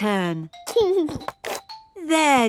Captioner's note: giggling